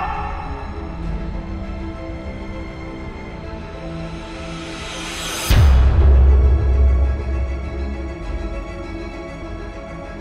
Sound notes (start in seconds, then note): 0.1 soft suspense music; 4.7 air whooshing; 5.9 soft suspense music continues